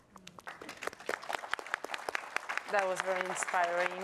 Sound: audience applauds

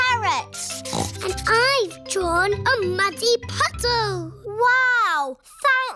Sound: snorts

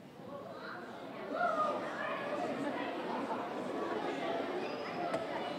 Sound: audience exclaiming

